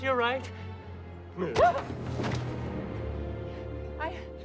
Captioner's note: tense music ends; yelps